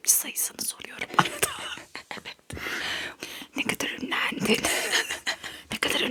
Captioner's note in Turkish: kahkaha